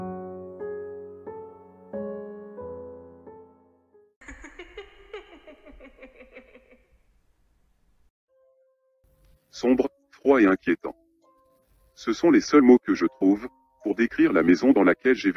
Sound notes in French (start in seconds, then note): 4.2 Rire